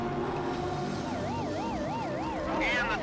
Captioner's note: siren blaring